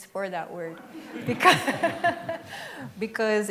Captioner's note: laughs